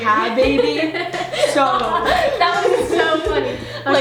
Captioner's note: laughing